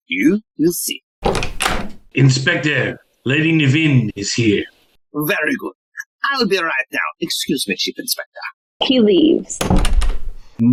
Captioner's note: sound of door opening